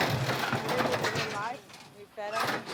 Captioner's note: gate rattling